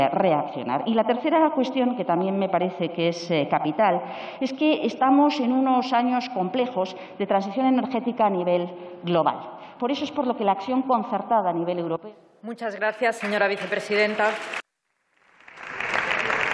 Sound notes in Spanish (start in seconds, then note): 13.2 Aplausos